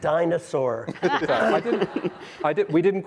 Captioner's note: audience laughing